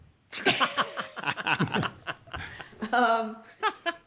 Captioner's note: laughter